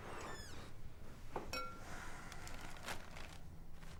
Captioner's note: door creaks; plastic rustling